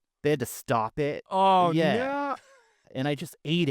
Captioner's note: laughing